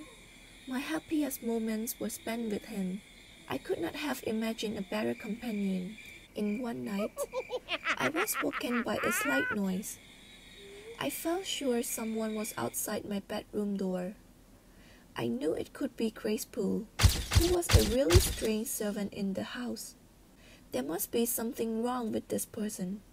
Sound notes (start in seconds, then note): 6.9 strange Laughing Noise